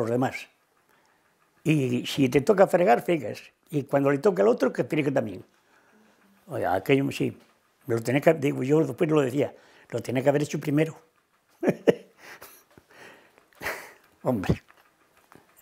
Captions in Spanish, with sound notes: demás. Y si te toca fregar, friegas. Y cuando le toque al otro, que friegue también". Oye, aquello sí. Yo digo, después lo decía: "Lo tiene que haber hecho primero". [Ríe]. ¡Hombre! ¡Qué cosas